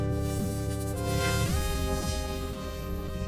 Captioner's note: energy crackling